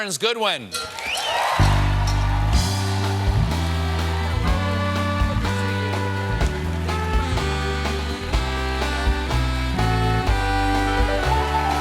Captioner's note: cheers and applause; band playing; cheers and applause; band playing